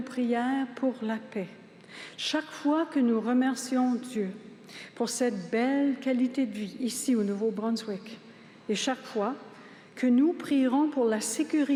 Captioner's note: speaking french